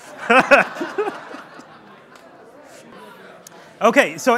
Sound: crowd laughing

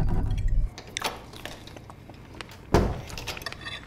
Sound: door opening, closing

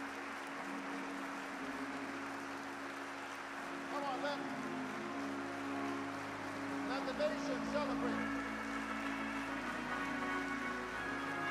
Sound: applause

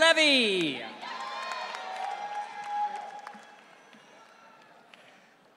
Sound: audience cheering

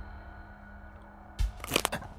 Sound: crack

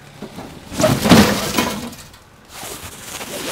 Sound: crash

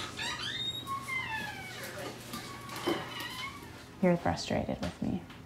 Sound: door creaking

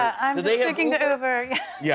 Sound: laughter

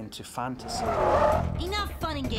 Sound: tires screeching

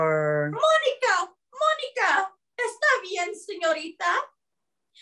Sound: speaking Spanish

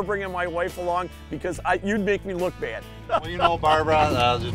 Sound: laughs

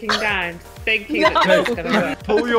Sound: laughter

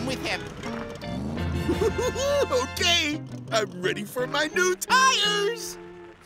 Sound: laughs

